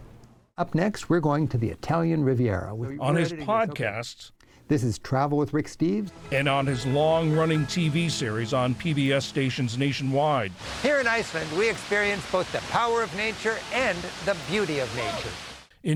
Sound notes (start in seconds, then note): 3.2 voice-over; 6.8 voice-over